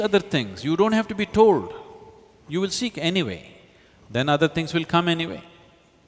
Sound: none

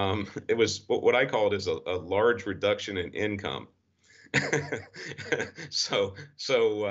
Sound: laughs

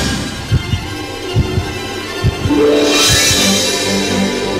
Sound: heartbeat thumping

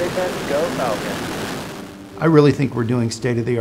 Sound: engine burns

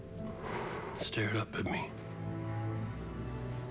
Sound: sighs

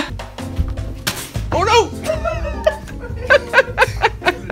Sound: off-screen, laughs

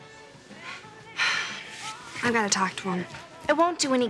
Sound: sighs

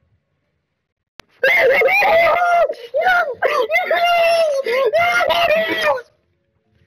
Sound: junkrat noises

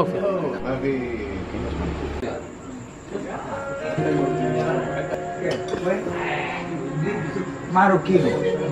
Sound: Speaking Inodesian

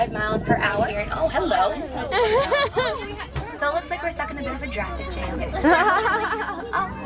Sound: laughter

